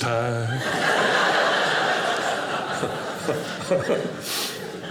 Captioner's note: audience laughing